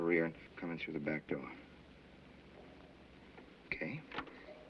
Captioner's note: whistles softly